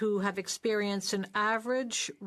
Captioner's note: speaking French